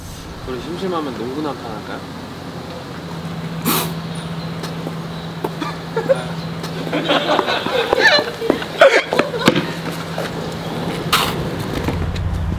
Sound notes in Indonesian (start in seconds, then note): 7.6 Ah ha ha